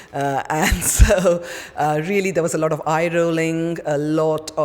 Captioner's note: laughs